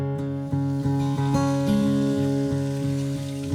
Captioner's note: water flows